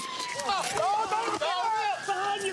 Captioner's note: yells